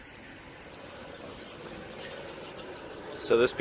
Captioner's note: liquid pouring